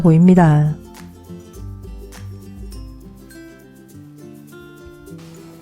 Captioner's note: olive oil is still sizzling